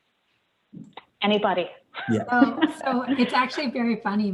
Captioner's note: laughs lightly